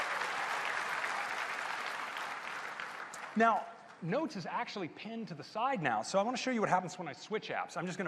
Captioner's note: applause